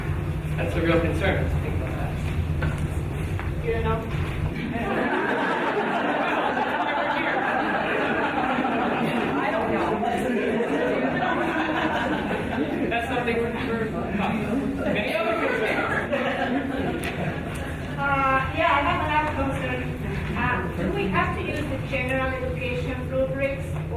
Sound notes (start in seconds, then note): 4.9 audience laughing